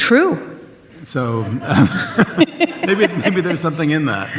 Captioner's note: audience laughs